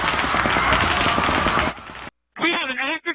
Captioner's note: gun firing